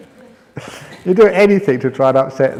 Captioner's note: laughs